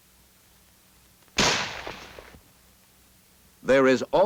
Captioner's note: gunshot